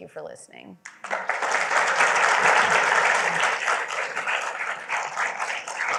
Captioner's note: applause